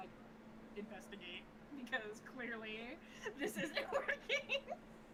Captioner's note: laughs